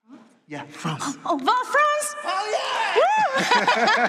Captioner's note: applause